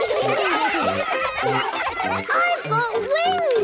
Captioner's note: excited laughter